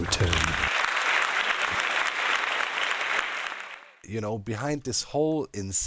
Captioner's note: applause